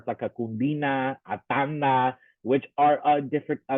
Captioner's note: talking in a foreign language